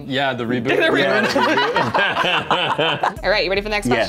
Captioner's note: laughter